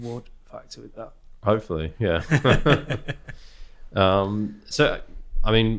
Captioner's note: both laughing